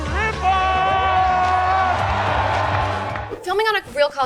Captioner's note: crowd cheering